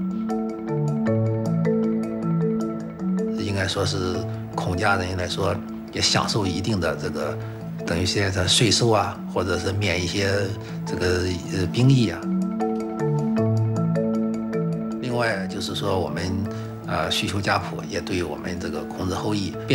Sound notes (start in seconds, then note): 0.3 gentle music; 3.3 speaking Chinese; 12.6 gentle music; 14.9 speaking Chinese